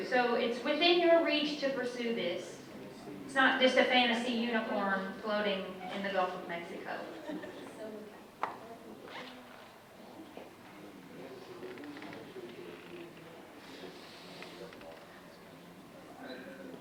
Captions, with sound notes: So it's within your reach to pursue this. It's not just a fantasy unicorn floating in the Gulf of Mexico. (audience chatting indistinctly)